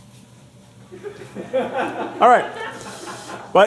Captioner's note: crew laughing